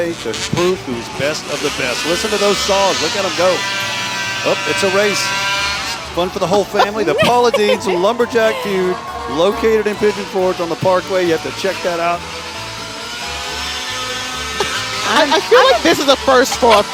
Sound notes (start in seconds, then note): 4.3 chainsaws buzzing; 6.4 chuckling; 15.7 chainsaws buzzing; 16.7 laughing